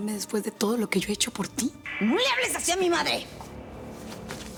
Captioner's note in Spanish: none